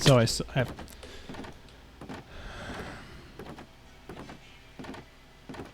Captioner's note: defeated sigh